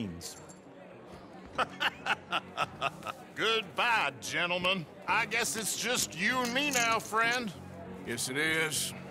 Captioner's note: laughs